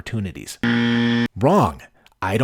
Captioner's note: buzzer